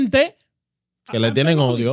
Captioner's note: speaking In Foreign Language